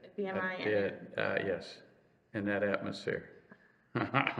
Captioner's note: laughs